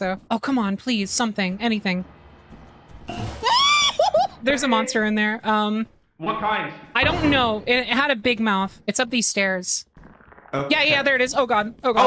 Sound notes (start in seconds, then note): 3.0 monster sound; 3.1 yelps; 10.0 bug skitters